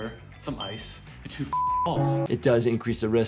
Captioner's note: beep